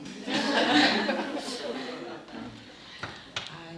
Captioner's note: laughing